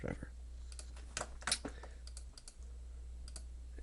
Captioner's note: clicking